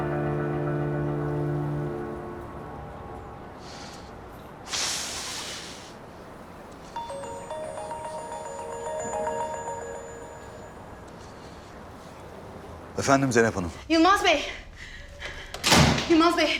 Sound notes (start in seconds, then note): 12.0 phone is ringing